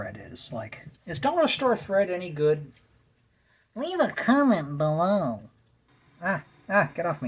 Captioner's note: disembodied voice